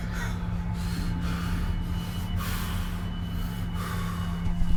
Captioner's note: Larry panting